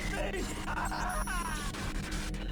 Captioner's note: laughter